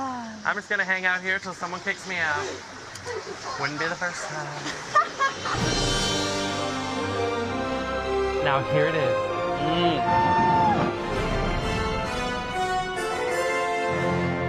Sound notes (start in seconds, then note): 9.9 whooping; 11.4 music crescendos